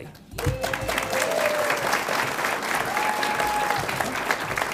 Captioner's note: audience applauds